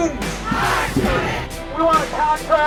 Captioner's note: crowd